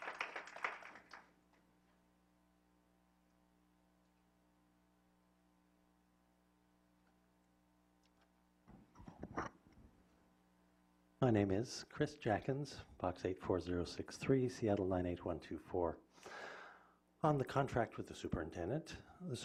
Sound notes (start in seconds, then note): 1.9 applause